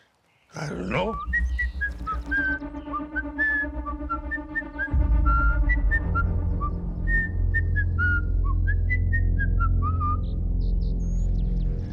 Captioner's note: whistling